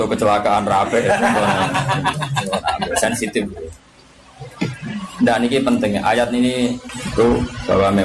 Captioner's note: laughs